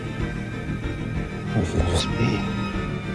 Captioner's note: whispering